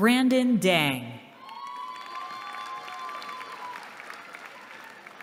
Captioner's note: applause